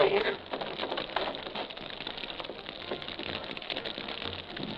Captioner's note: fire crackling